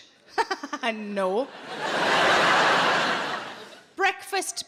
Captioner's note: laughing; audience laughing